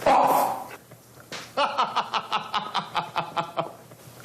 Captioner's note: laughs